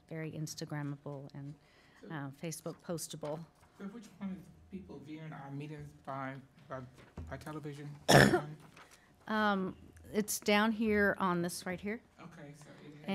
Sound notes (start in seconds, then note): 8.0 coughs